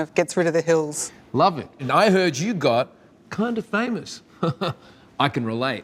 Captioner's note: chuckles